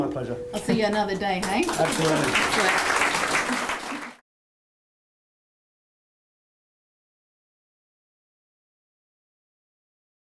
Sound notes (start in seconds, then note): 1.4 applause